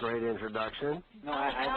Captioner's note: laughter